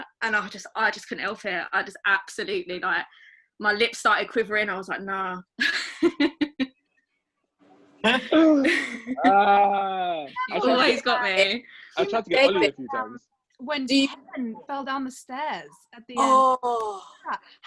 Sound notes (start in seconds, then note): 8.0 laughs; 13.9 speaking faintly